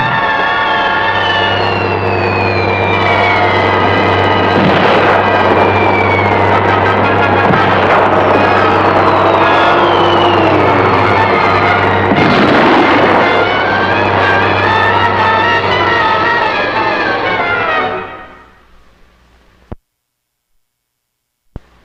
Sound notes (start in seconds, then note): 0.3 speaking in foreign language; 5.6 dramatic music; 10.2 shells exploding